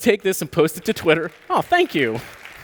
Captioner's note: applause